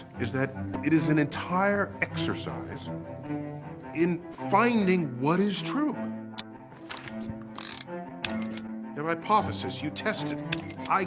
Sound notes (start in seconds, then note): 8.2 camera clicking